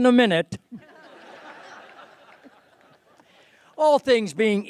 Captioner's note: laughter